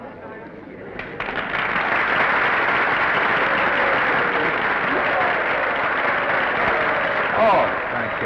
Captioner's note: applause